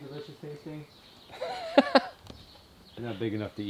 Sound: laughing

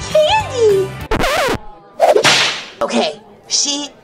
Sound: whip cracks

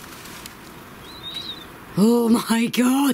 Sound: whistle

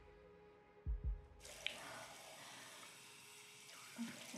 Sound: water running

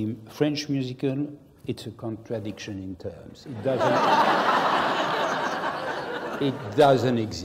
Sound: laugh

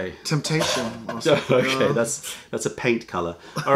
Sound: laughter

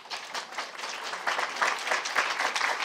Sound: applause

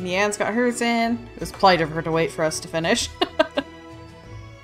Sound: laughs

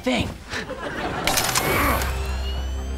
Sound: grunting

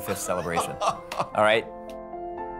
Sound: laughing

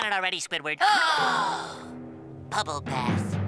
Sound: gasping

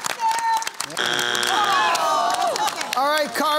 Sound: groaning

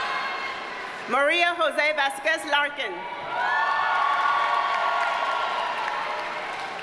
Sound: audience cheers and applauds

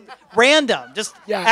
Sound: laughter

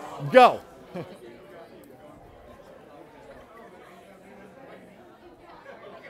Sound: chatter

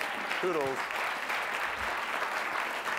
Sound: applause

